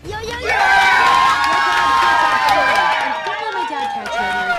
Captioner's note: crowd cheering and applauding